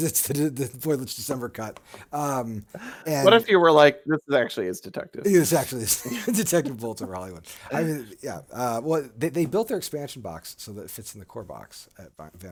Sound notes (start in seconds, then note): 5.6 laughing